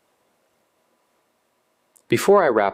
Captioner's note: pause